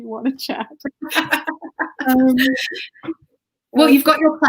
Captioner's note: laughs